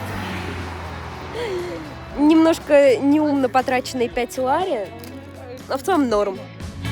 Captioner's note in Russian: вздох